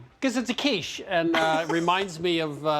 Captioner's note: laughs